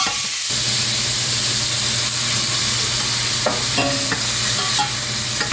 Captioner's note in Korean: ※환풍기소리 주의※